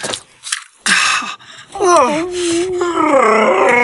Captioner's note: dog whining